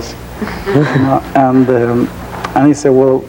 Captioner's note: audience chuckling; chuckling